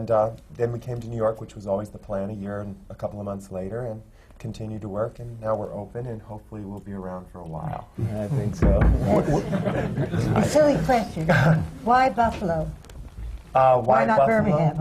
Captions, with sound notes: And then we came to New York, which was always the plan, a year and a couple of months later, and continued to work. And now we’re open, and hopefully, we’ll be around for a while. (KNOCKS ON THE COFFEE TABLE FOR LUCK) I think so. (LAUGHTER) A silly question. Why Buffalo?